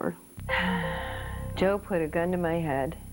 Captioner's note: sighs